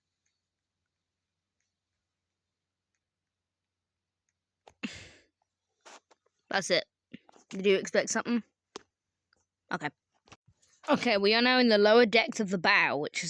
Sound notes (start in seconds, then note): 4.8 the action of inhaling or breathing in